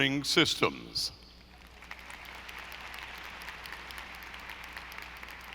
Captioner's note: audience applauding